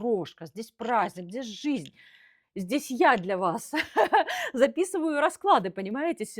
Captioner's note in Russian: смех